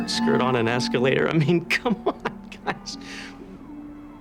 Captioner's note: chuckling